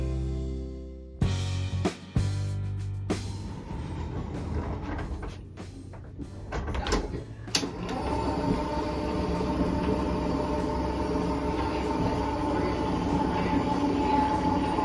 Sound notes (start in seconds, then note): 1.2 buoyant music; 3.4 sliding on metal track; 7.6 lift motor hums